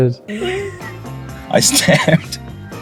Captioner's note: Hugh laughing; actress laughing